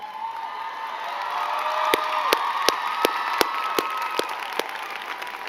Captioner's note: crowd cheering and clapping